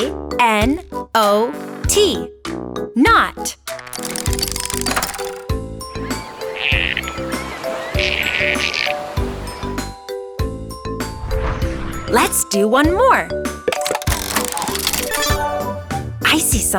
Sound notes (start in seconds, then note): 5.3 rope squeaking; 5.9 birds chirping; 14.0 mechanical whirring